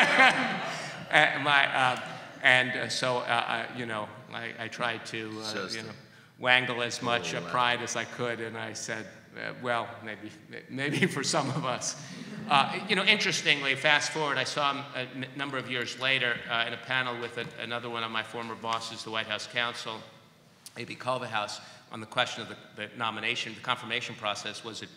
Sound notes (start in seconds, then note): 0.0 laughter; 10.8 laughter